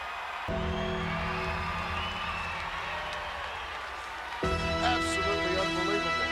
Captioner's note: crowd cheers; bell tolls